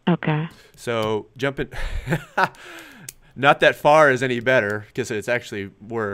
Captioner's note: laughs